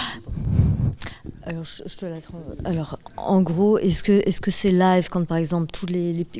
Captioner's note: speaking in French